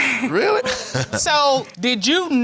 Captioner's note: laughs